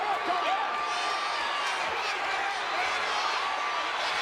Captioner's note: crowd yelling